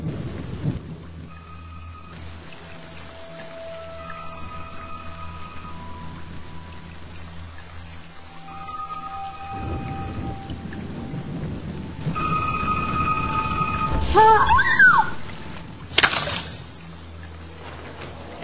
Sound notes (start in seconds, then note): 1.3 closer ringing; 4.0 nearby ringing; 8.3 ringing; 12.2 ringing!